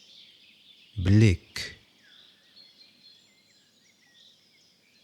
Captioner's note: german